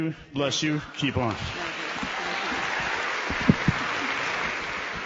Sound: applause

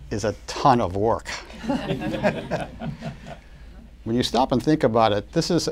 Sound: laughter

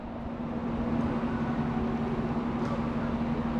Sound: ambient airport noise

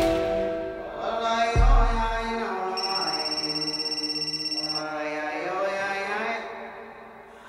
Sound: indistinct chanting

